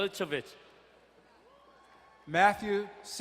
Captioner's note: distant cheering